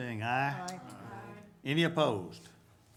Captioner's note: group chanting